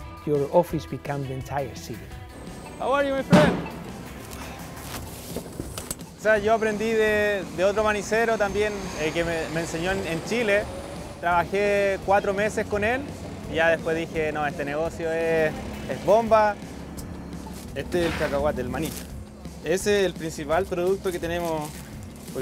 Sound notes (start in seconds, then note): 4.0 umbrella flaps; 6.2 speaks Spanish